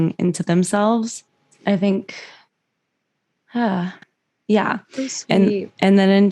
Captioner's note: sigh